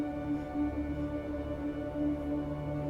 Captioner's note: none